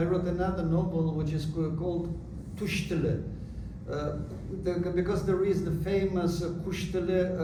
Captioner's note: non-english